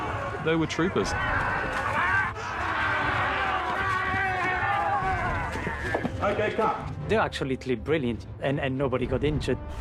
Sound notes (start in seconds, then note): 2.5 all shouting